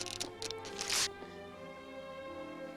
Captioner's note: comb teeth snapping